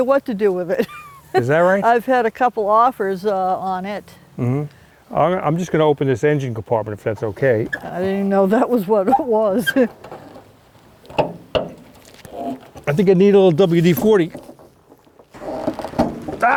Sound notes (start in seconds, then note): 1.0 laughs; 10.5 chuckles; 11.1 compartment door clanking; 15.3 compartment door screeching